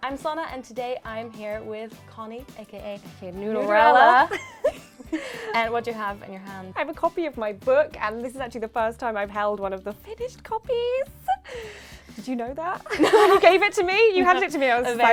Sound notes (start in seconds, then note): 3.7 laughing